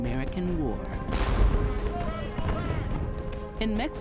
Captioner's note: sounds of battlefield